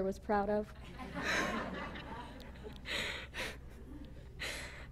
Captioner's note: laughter